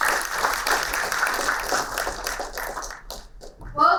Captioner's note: applauding